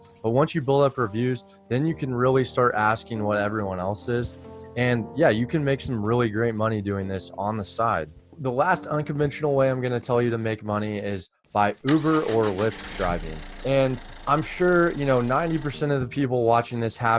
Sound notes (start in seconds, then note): 11.9 car revving